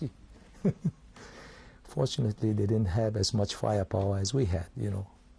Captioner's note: laughs